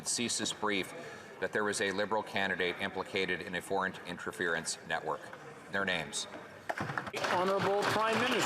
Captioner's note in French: voix de l'interprète